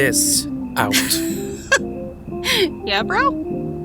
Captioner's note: laughs